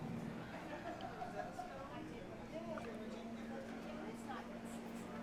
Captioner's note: indistinct chatter